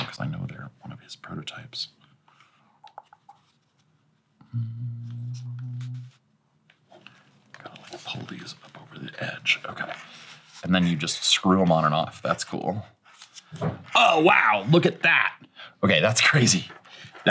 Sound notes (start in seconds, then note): 2.9 tongue clicking; 4.4 humming